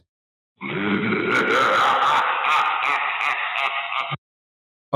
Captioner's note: monstrous laughter